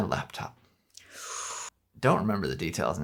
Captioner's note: gasps